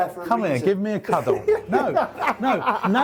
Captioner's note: laughing